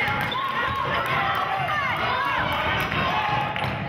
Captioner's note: yelling